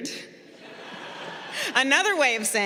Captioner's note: crowd laughing